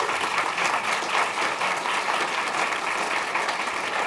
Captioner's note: applause